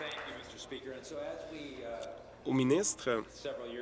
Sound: applause

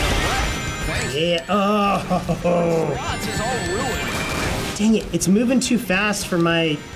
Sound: laughs angrily

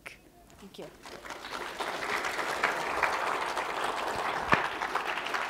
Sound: applause

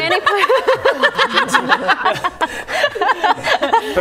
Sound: laughing

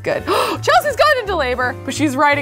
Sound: gasps

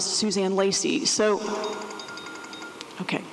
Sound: ringing

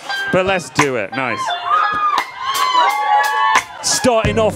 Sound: audience cheering

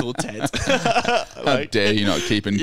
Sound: laughing

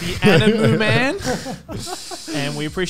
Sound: laughing

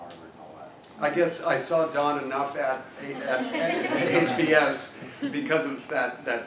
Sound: laugh

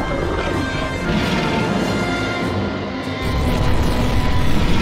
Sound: cacophonous roaring

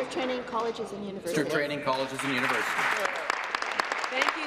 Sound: applause

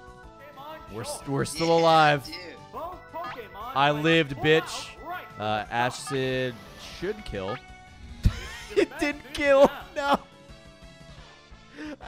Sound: laughs

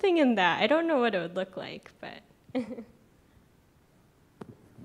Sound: laughs

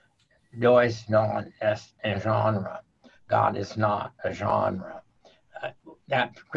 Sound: speaking a foreign language

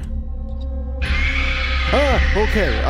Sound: screeches

